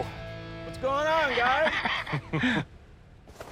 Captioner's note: both laugh